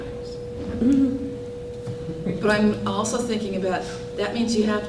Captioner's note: laughter